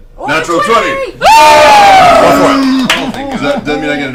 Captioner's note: all cheer